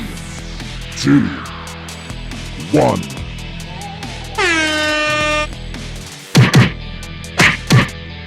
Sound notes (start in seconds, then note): 0.1 fight music; 4.3 air horns